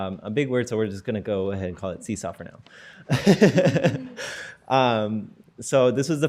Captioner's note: laughter